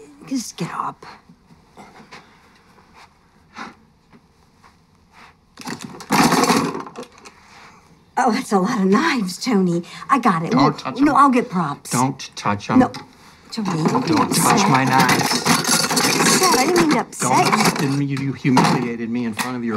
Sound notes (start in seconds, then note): 5.7 knives clattering